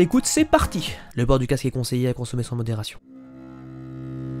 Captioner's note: PSA voice